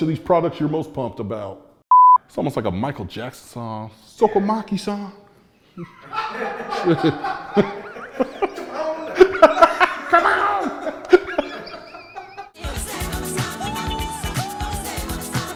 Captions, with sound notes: of these products you're most pumped about. It's almost like a Michael Jackson song. (group laughing) (pop song begins)